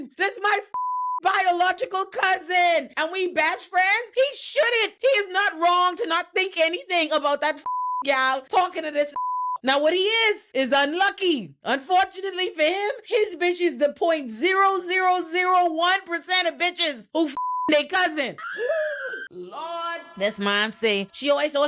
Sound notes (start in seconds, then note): 17.3 beep